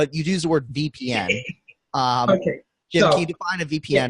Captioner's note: laughing